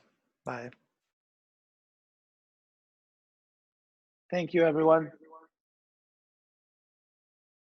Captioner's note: silence